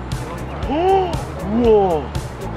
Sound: exclamation

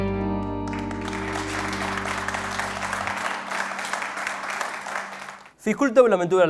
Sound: clapping

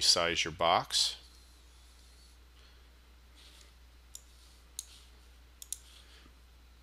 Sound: sound of mouse clicking

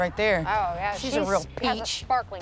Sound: Sarcastic

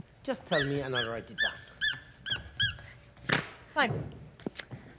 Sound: dog toy loudly squeaking

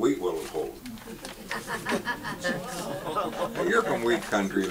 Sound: audience laughs

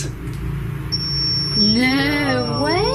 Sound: beeping

